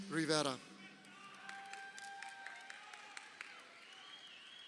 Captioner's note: crowd cheering